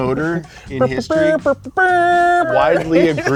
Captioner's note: making trumpet sounds and laughs